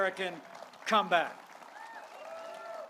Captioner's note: applause